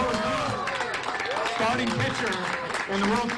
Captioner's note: cheers and applause